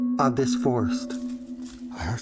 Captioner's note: rustles